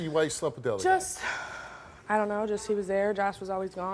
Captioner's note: sighs